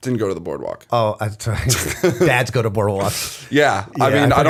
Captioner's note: laughter